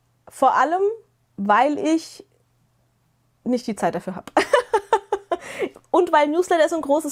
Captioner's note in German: gelächter